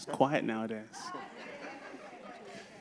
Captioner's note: laughter